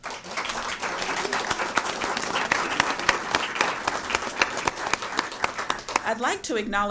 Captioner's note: applause